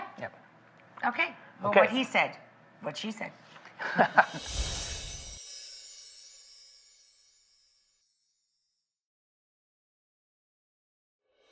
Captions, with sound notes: Yeah. Okay. Well, what he said. What she said. (chuckle) (soft percussion noises)